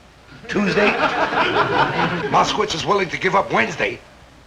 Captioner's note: audience chuckling